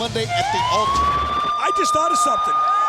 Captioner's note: siren wailing